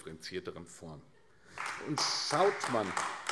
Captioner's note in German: Beifall AfD